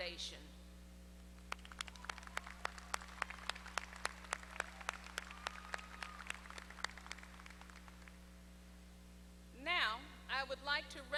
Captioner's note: applause